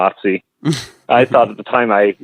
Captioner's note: laughs